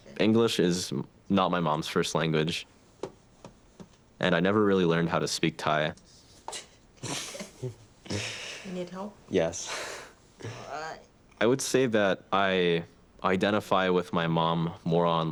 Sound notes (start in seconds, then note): 7.0 both chuckle